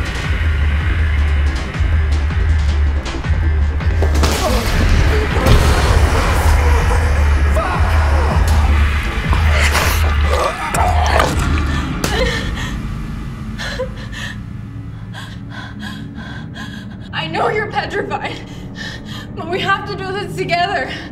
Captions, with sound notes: Fuck! (growling) (slapping) - I know you're petrified, but we have to do this together.